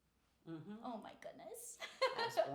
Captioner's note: laughing